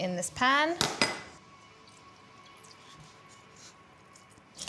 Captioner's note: dish clunks